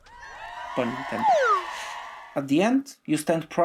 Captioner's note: people cheering